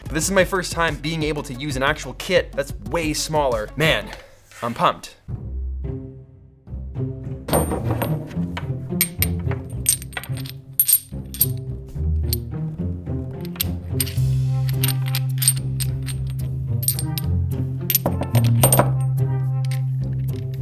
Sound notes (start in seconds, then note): 7.5 clanging metal; 8.3 mysterious music playing